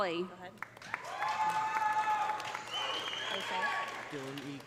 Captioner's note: audience applauding; audience cheering